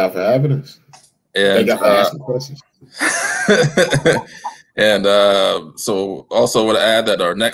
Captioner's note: laughter